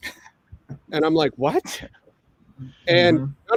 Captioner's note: laughing